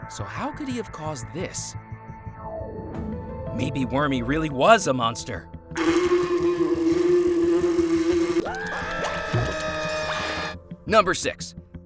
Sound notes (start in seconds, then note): 5.7 buzzing; 7.4 screaming